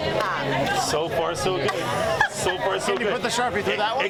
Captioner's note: group laughs